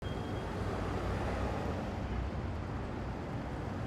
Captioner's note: traffic humming